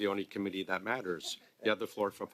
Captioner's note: laughter